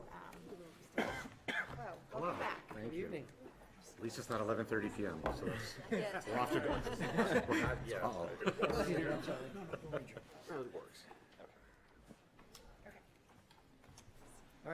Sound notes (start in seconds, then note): 9.6 clears throat